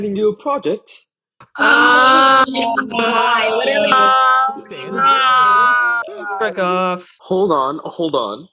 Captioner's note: class loudly reacts